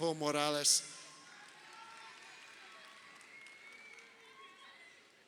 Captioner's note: crowd cheering